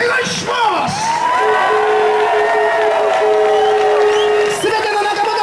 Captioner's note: audience applauds and cheers